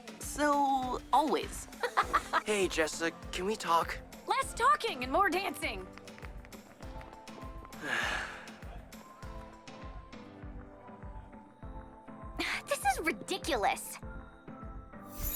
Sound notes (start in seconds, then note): 1.8 Terra laughs; 7.8 Brax sighs; 9.5 upbeat music